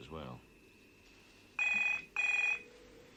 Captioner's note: telephone rings